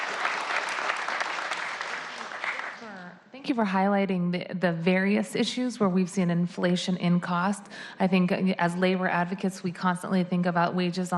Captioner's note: applause